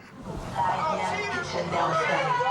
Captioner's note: chatter